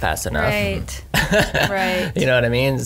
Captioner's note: laughs